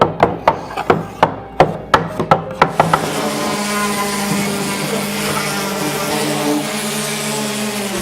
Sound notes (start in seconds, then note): 2.6 sander grinding